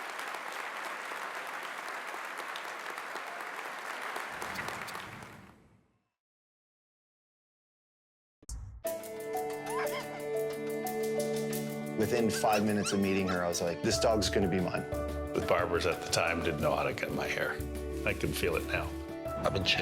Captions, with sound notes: TRUTH WITH EVERYTHING YOU HAVE. [APPLAUSE] * >> Within five minutes of meeting her, I was like this dog is gonna be mine. >> The barbers at the time didn't know how to get my hair. I can feel it now.